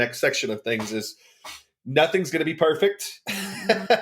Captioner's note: laughs